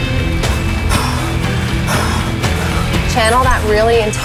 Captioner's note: dramatic music; heavy breathing